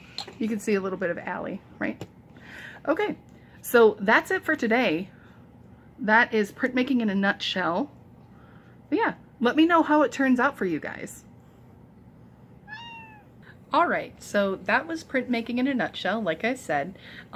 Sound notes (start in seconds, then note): 12.6 loud meow